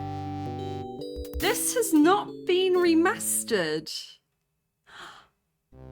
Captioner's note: gasp